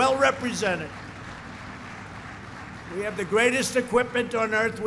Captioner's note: applause